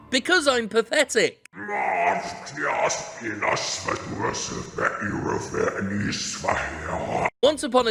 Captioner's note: distorted, deep voice speaking in reverse